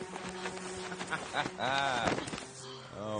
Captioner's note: laughs